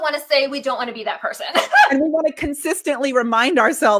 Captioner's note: laughs